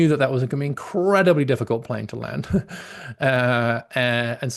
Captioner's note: laughs